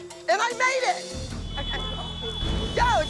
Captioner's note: horns honking